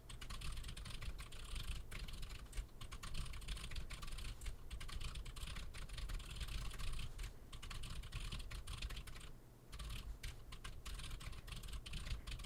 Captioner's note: typing sounds